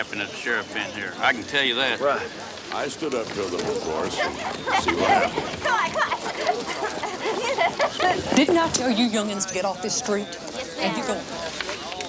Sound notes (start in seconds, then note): 2.7 townsfolk chatter; 3.4 children giggle